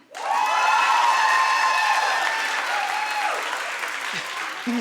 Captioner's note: audience applauding